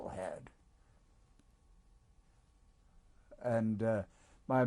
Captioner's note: pauses for 3 seconds